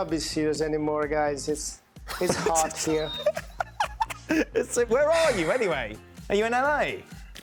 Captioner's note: laughter